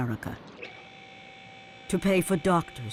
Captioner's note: machine humming